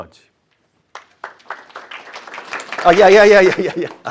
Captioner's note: applause